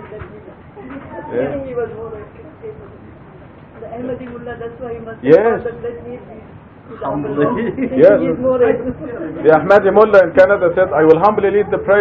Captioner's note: Gülüşmeler